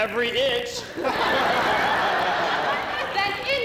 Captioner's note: laughter